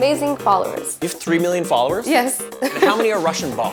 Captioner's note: laughs